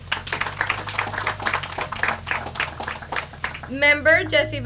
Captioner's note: audience applauds